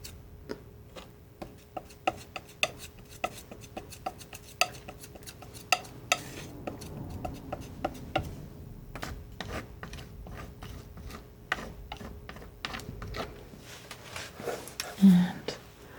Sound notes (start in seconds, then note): 0.6 tapping